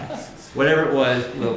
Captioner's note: laughter